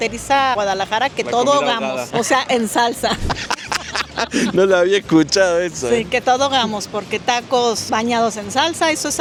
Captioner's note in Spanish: risas